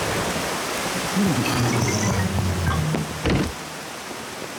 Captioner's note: grunts